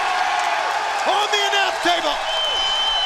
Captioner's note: crowd cheering